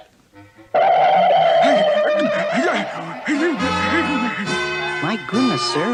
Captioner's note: Adam West Gasps